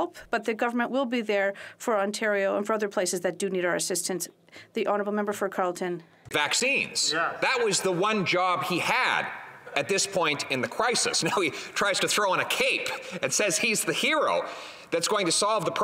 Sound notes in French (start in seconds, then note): 8.5 voix de l'interprète